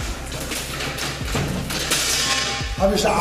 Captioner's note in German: Scheppern